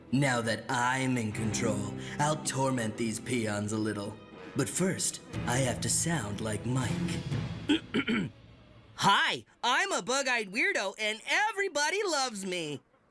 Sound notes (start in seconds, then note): 7.7 Mal Clears Throat